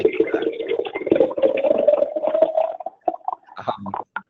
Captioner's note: water gurgling